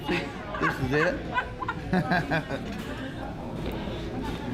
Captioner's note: laughter